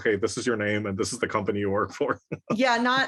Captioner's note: laugh